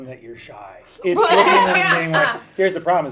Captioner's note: laughing